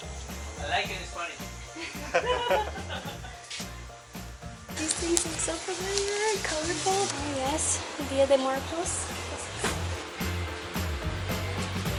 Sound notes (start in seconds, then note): 1.8 laughter